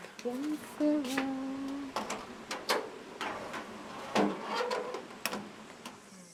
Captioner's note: sounds of working in a kitchen